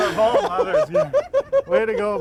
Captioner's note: laughing